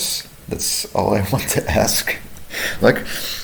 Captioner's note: chuckling